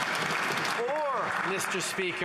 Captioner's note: some Applause